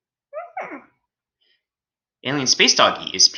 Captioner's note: cutesy animal sound